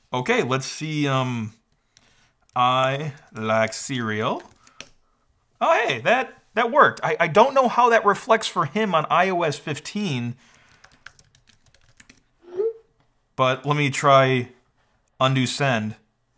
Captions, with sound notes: Okay, let's see, um, I like cereal. Oh, hey, that worked. I don't know how that reflects for him on iOS 15, (keyboard clacking) (computer beeps) but let me try Undo Send.